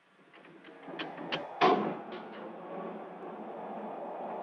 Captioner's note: magnetic humming